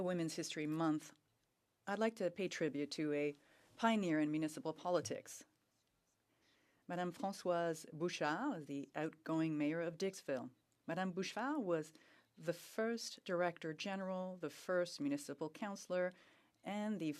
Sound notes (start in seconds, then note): 3.0 speaking French